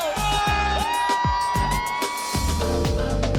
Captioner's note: cheering